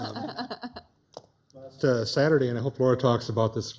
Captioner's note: laugh